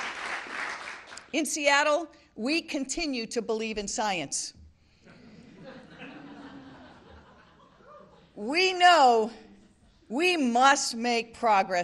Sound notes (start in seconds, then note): 0.0 applause; 9.2 laughte